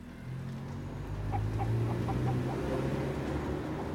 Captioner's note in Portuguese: galinha cacarejando